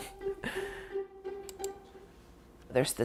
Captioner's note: mouse click